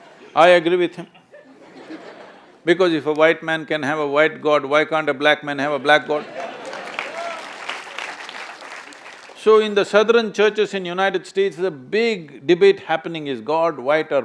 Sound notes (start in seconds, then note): 1.1 few laugh; 6.0 laughter/Applause